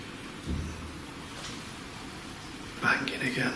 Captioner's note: banging